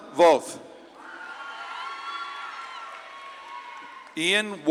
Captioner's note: audience claps and cheers